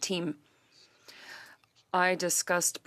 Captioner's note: speaking French